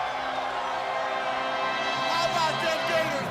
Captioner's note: crowd cheering; crowd chatter